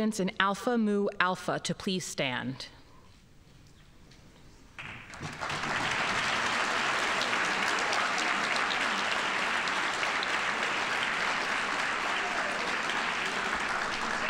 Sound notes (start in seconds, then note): 5.1 audience applauding